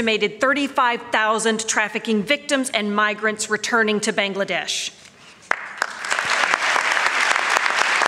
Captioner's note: applause